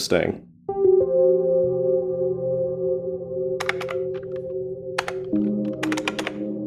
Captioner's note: suspenseful music; keys typing